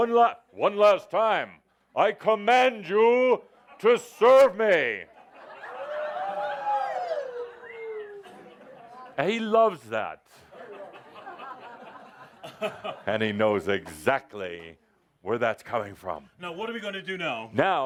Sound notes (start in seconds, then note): 5.5 audience whoops and cheers; 10.4 laughter